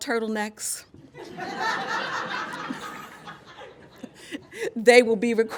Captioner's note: laughter